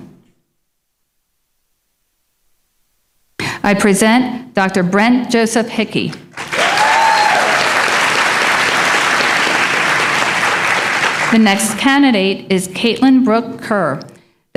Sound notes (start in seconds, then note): 6.3 applause